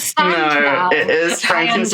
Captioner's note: laughs